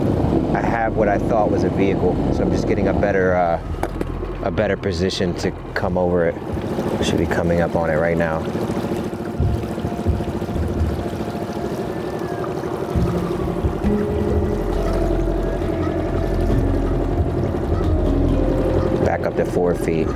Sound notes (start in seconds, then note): 9.4 boat engine purring; 9.4 eerie music